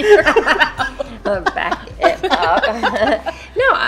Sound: laughter

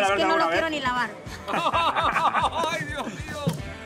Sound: laughs

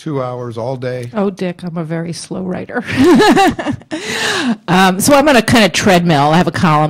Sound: laughs

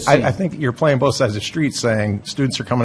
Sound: voiceover

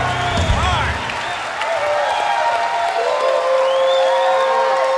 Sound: cheers

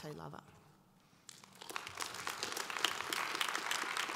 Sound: audience applause

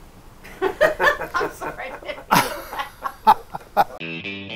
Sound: laughter

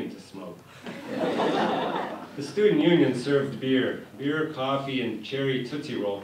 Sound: laughter

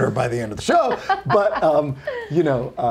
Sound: laughing

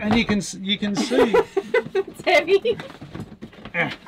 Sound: chuckles

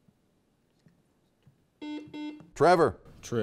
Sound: buzzer beeps

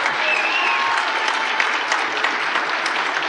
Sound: applause

